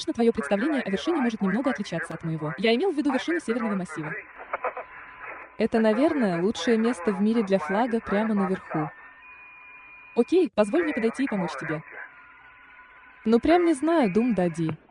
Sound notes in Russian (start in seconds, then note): 8.4 Смеется